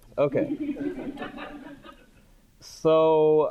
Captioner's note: audience laughing